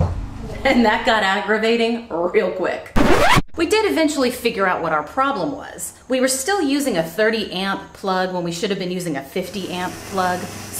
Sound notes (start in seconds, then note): 2.9 record scratch